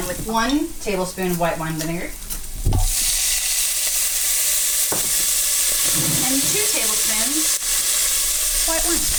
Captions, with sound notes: with one tablespoon of white wine vinegar-- (vinegar sizzling) and two tablespoons white wine.